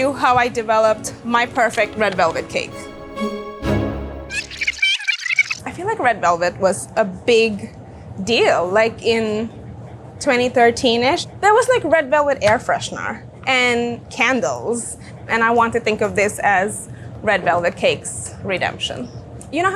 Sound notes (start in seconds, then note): 3.0 dramatic music; 4.3 voice rewinding